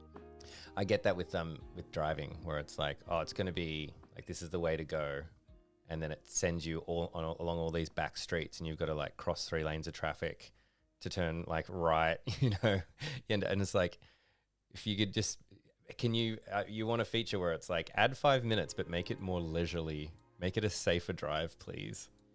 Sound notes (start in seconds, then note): 12.2 laughter